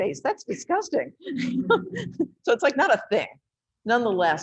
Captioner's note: laughs